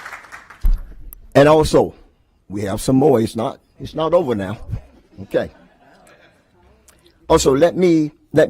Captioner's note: applause